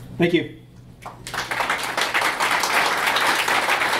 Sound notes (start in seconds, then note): 1.0 applause